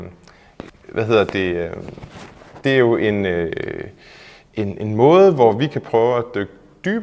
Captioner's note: scratch scratch